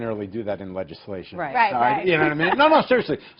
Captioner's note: laughter